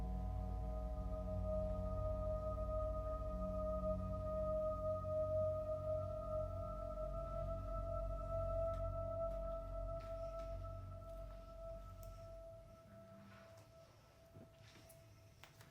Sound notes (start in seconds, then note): 0.1 eerie electronic music; 9.8 Rebecca breathing uneasily